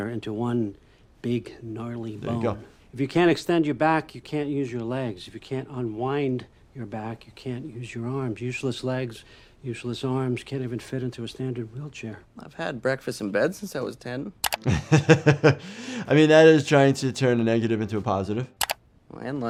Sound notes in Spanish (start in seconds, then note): 14.6 Médico se ríe